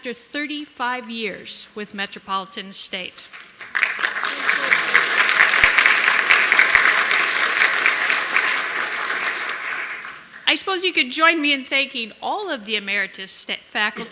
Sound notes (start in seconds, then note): 8.8 applause